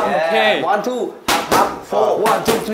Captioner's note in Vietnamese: Pow